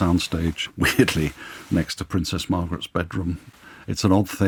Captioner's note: laughs